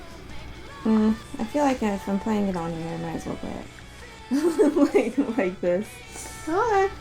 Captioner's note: laughing